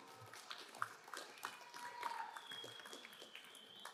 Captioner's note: crowd applauding